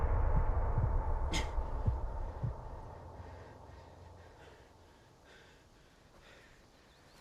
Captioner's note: dramatic music; Ben gasping; birds chirping